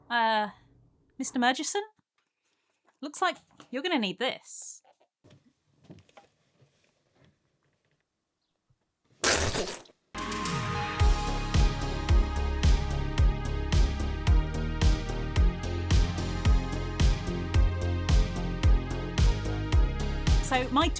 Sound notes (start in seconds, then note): 9.2 disgusting spitting noise; 10.3 80s synthwave